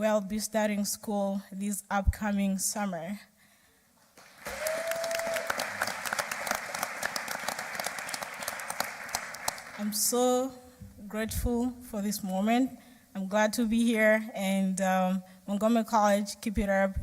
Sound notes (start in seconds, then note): 6.2 applause